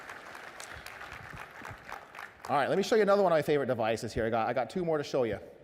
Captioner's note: applause